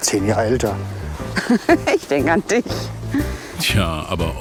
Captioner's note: laugh